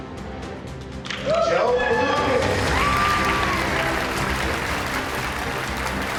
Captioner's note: applause